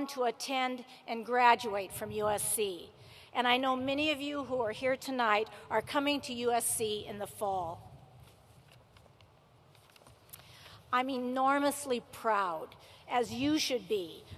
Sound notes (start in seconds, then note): none